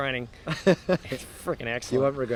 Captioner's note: laughs